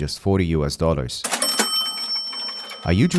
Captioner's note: cash Register Sound